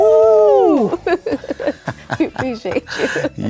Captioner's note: laughing